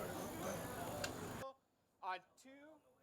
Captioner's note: audience chattering